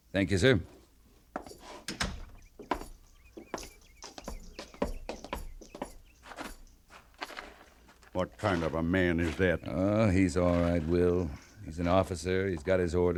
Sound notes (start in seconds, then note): 5.0 footsteps thudding